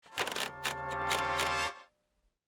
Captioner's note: wheel clicks